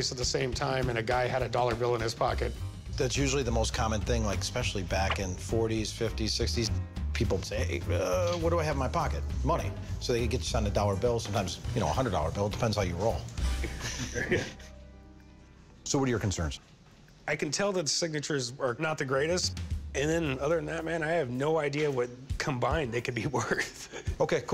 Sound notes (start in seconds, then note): 13.5 chuckling